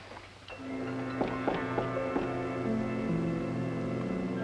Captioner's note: door knocking